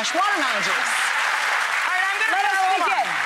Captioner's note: audience applause